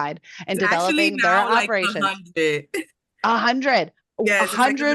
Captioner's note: laughs